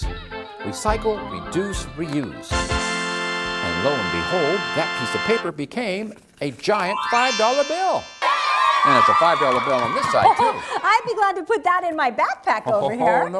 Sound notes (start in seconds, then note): 2.5 ta-daa!; 6.8 magic tinkle sound; 8.2 cheering!